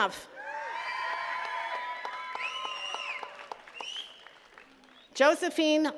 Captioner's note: attendees cheering and clapping